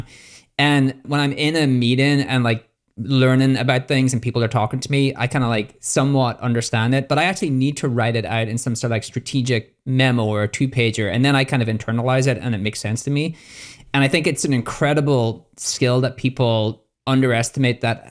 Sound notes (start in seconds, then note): none